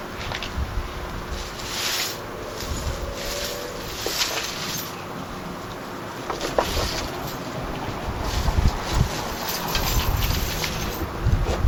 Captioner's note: chains rustling